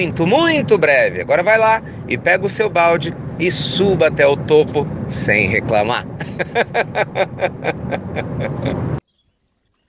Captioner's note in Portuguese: risos